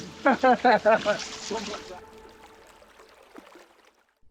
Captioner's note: laughter